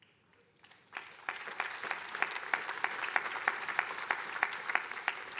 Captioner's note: attendees applauding